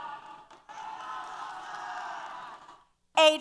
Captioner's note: applause & Cheers